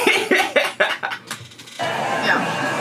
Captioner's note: laughs